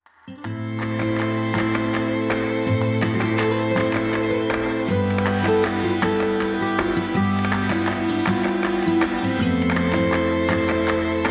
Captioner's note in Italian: Applauso